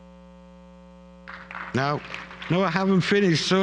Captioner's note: applause